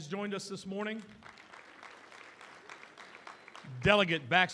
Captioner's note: applause